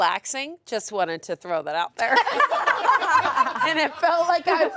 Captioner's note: all laugh